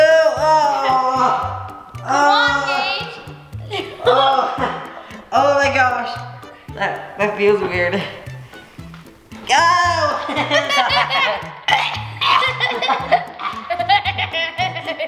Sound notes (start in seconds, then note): 3.6 laughs; 9.8 laughs; 11.7 gags